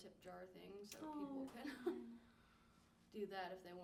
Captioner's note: laughs